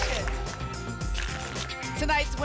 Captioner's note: tickets shuffling